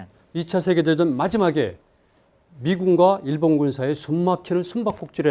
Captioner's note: speaking in Korean